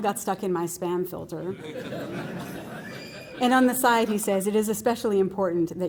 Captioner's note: laughter